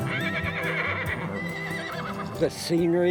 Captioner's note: horses whinny